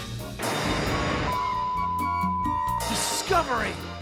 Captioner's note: beeps